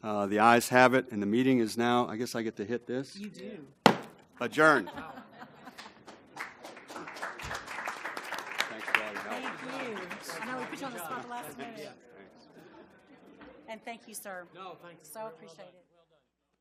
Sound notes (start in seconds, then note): 4.8 laugh; 5.7 applause